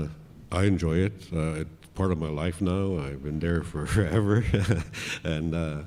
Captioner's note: laughs